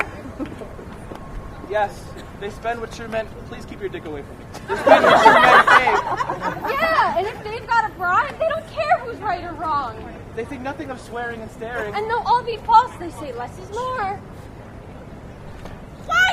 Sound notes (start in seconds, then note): 4.6 laughter